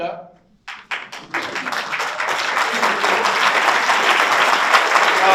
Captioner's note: audience applauds